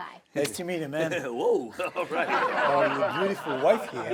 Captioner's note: audience laughing